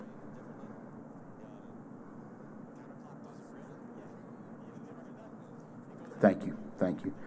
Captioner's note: moment of silence